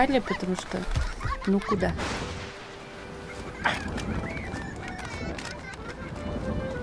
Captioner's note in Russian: детский смех; шум прибоя